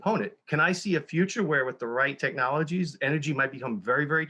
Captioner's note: none